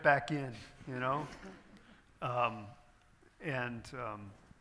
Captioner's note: audience chuckles